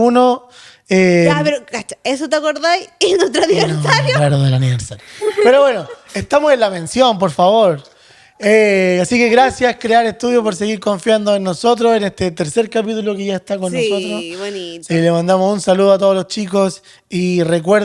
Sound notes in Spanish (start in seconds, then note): 4.6 risas